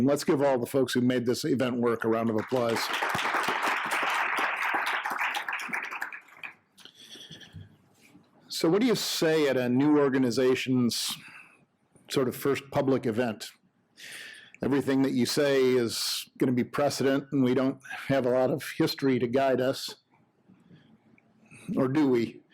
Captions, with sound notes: Let's give all the folks who made this event work a round of applause. (audience applauding) So what do you say at a new organizations sort of first public event? Everything that you say is going to be precedent and we don't have a lot of history to guide us, or do we?